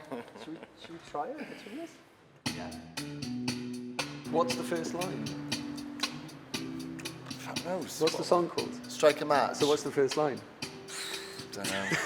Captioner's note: laughter